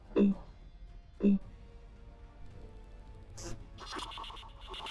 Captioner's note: laptop buzzes and clicks